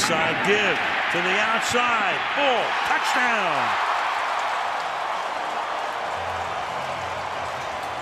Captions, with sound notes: Inside give to the outside. Ball, touchdown! [cheering]